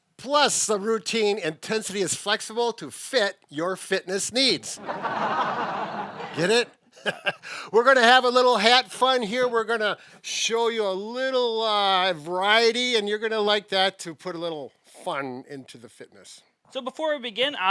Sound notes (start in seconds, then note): 4.8 audience laughing; 6.9 chuckling